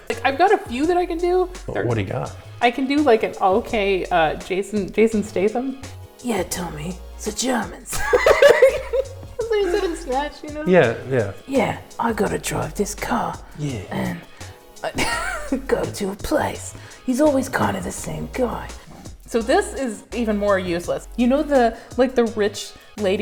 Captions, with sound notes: I've got a few that I can do. Okay what do you got? I can do like an okay Jason Statham. "Yeah Tommy - the Germans." [hysterical laughter] That's what he said in Snatch, you know? Yeah. "Yeah. I gotta drive this car, and [cracks up] go to a place. He's always kind of the same guy." So this is even more useless, you know the, like the rich